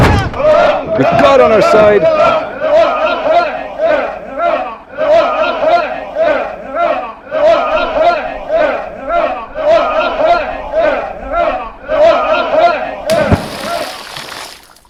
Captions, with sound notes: With God on our side! [mob chants] [SPLASH!]